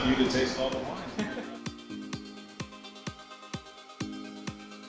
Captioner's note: chuckles